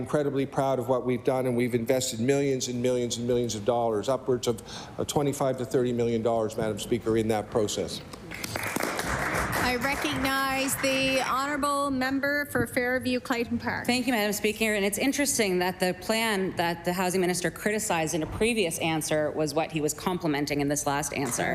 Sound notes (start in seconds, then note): 11.9 applause